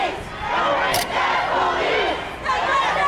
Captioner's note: crowd